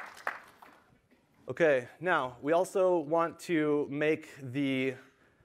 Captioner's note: applause